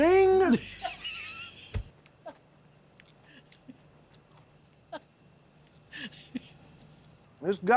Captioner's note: laughter